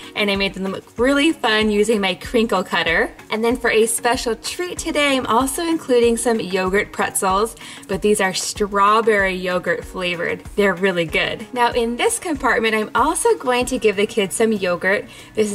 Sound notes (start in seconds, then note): none